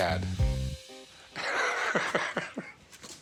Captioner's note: laughs